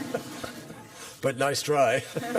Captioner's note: laughter